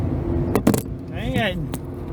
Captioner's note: clanking sound